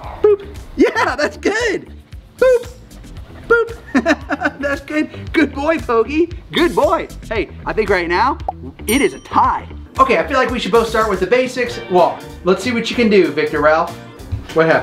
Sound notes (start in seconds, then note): 3.4 laughs; 8.9 scoreboard dings